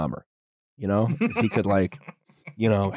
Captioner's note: laughs